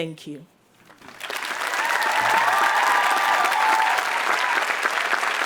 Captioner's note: audience applauds